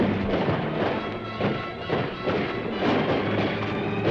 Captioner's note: dramatic music; guns firing